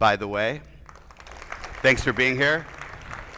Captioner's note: attendees applauding